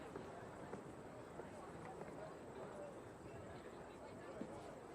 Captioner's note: people chattering